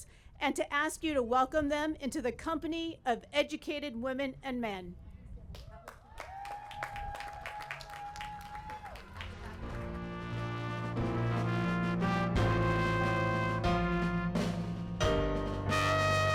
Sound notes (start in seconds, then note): 5.5 applause